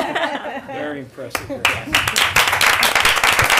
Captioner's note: applause